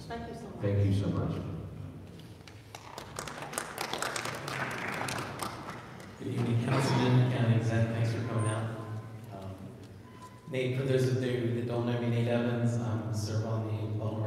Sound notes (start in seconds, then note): 2.5 audience applauding